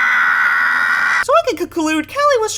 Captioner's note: Flower screams